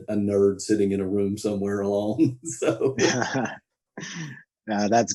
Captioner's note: laughs